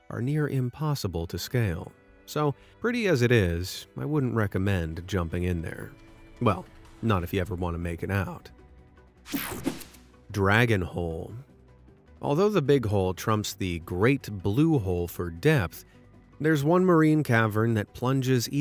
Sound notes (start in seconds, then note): 9.3 logo whooshing